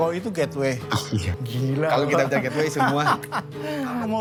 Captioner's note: laughs